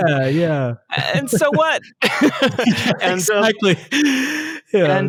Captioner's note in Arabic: يضحك